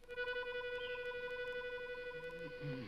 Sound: Dunderklumpen hums

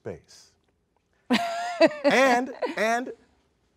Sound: laughs

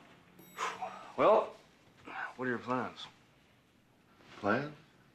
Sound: sighs

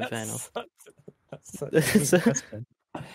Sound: laughing

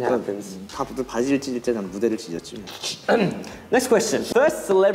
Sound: speaking in Korean

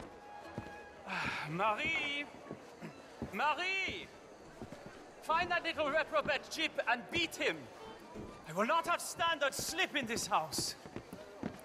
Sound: sighs

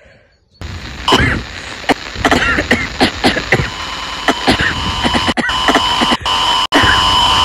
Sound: loud glitches, Leon coughing violently

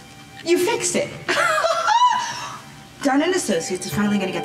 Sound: laughing

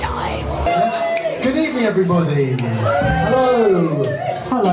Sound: cheering

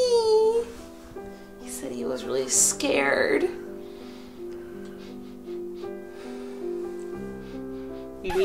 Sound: sniff Sniff

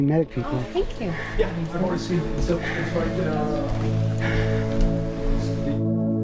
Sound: people chattering

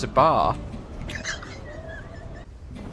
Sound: laughs

